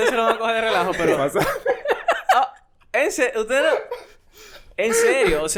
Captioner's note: laughs